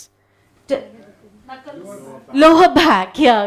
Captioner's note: audience talking